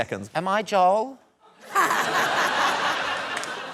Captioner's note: laughter